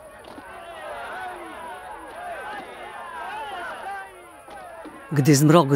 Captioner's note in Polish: odgłosy walki